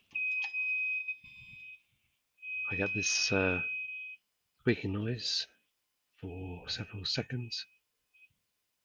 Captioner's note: beeping